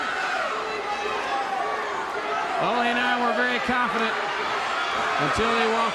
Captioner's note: crowd cheering